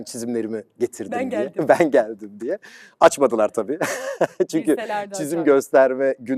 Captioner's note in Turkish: kahkaha